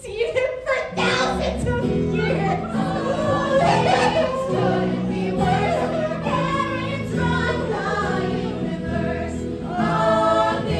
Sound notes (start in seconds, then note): 2.7 cries; 8.0 Grover sobbing